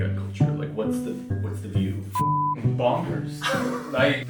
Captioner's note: beep